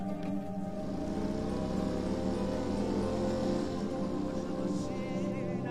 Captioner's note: motorcycle engine revving